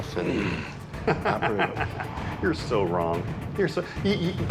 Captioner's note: laughs